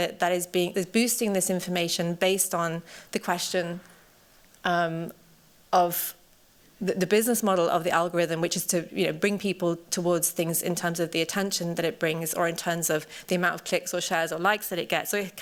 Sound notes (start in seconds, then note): none